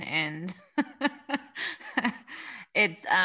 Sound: laughs

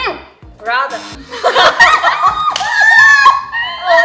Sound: hahahahahahaha

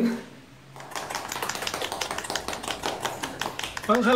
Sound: audience clapping

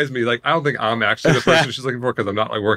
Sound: laughing

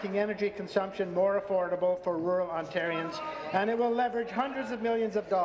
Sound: applause

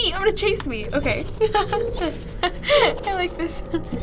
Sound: laughs

